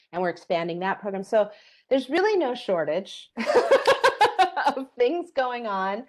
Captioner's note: laughs